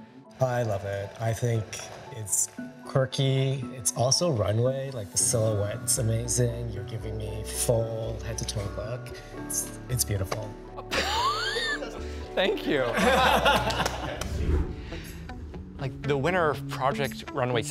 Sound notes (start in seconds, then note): 10.9 chuckling; 12.9 all chuckling; 13.6 clapping; 14.2 image whooshes